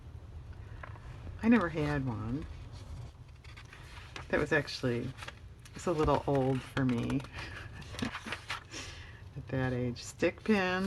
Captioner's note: laughs